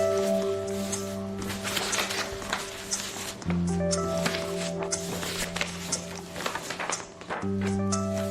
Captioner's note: sample 3: The sound of flipping exam papers